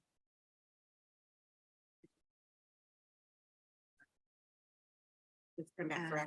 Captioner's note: faintly speaking